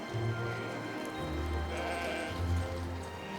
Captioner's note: sheep bleating